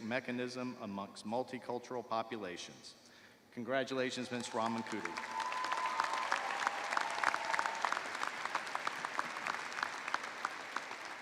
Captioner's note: cheers and applause